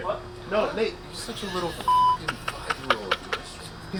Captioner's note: beep; laughing